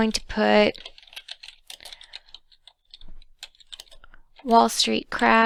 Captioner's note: typing noise